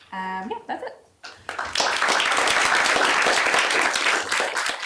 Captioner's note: applause